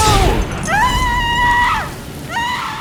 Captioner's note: screams